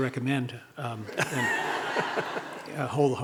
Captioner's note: audience laughing